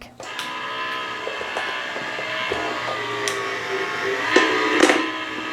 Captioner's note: buzzing, grinding sound